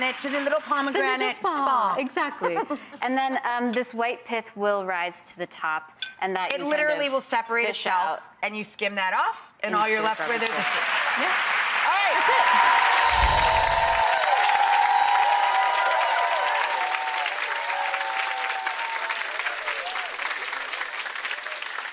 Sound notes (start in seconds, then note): 2.0 laughs; 10.8 applause; 13.3 cheers; 19.2 chimes